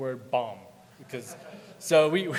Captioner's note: audience laughing